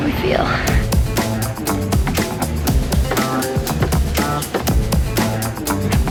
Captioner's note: upbeat music; wooden board thudding